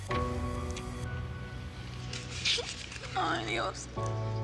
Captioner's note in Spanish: sollozos